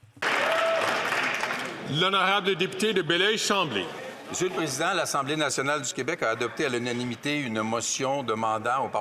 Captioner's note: some Applause